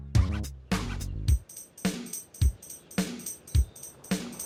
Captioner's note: birds chirping